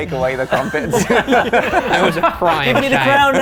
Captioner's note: laughing